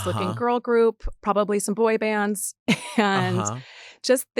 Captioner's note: chuckles